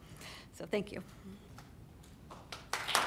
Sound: applause

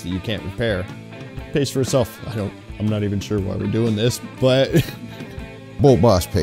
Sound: laughs

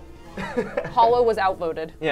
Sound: laughs

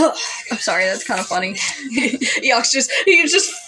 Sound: laugh; chuckle

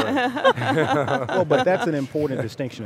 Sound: laughing

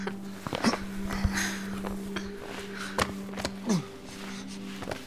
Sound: footsteps on the ground

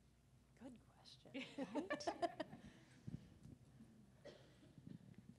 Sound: laughter

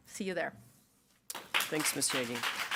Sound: audience clapping

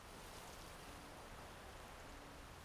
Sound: wind rustling trees

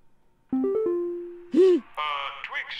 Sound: giggles

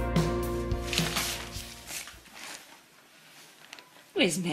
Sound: canvas swishes

